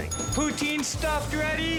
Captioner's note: bell dings